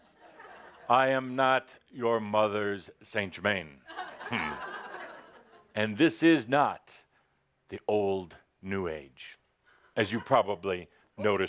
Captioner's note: laughter